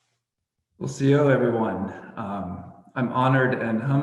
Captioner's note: speaking native language